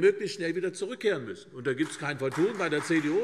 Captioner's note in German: Beifall CDU